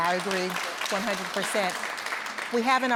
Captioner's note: applauding